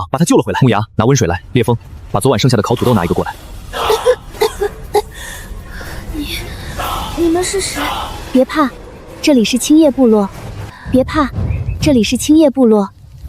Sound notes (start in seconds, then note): 3.7 cough cough cough